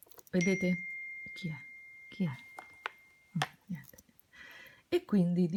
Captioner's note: sound of a message on the mobile phone